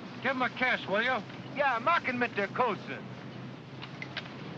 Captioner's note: photographer speaks in German